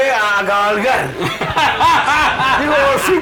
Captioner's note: laughs